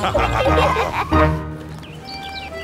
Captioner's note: laughter